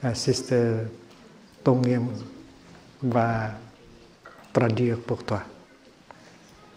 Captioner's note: french